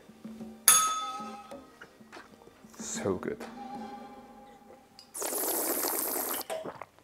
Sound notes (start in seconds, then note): 0.7 bell rings; 5.1 slurps